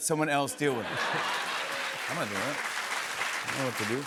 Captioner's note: laughter, applause